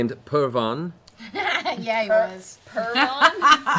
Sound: laughing; laughter

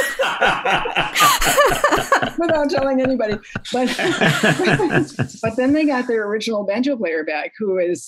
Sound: laughter

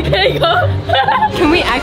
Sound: laughing

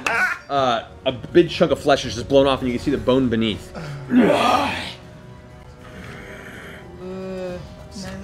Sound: laughter; grunts, growls

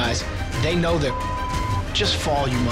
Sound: beep

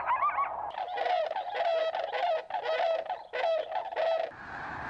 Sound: squawking

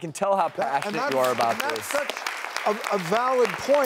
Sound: audience clapping

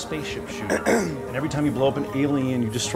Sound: Keith clears throat

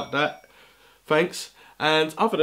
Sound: phone alert

